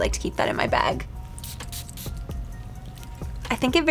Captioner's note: perfume hissing